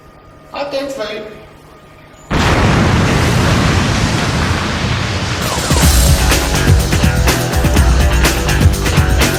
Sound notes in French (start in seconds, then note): 2.3 Explosion violente